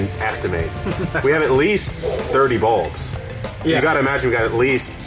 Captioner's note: laughing